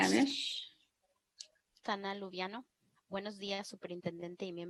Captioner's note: conversing in spanish